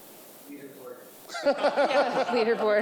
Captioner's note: people laughing